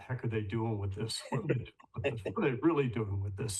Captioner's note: laughs